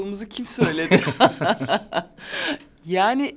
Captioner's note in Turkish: Gülüyorlar